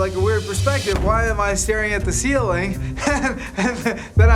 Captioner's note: laughs